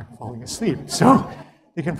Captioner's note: laugh